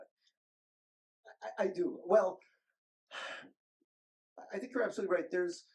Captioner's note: sighs